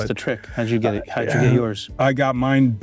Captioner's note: clears throat